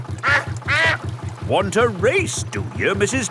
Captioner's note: quacks